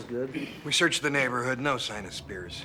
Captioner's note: gasps